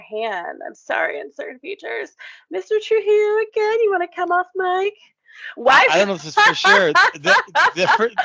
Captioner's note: laugh